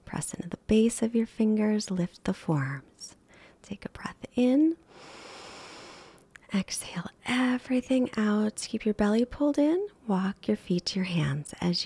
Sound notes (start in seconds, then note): 4.9 inhales